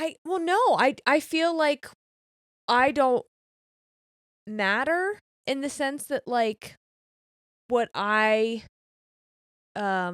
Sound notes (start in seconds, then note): none